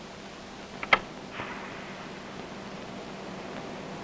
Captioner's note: whooshing